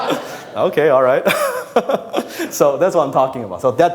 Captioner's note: laughs; audience laughs